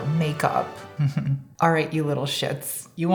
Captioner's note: chuckling